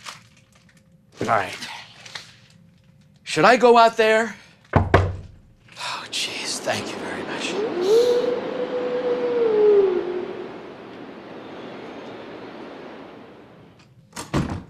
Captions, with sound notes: Alright. Should I go out there? [Two knocks. Opens door] [Howling noises]